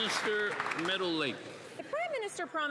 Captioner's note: applause